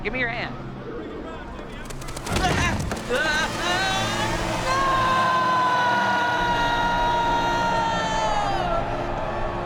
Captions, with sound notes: Now, come on over here, give me your hand! (Joel screaming)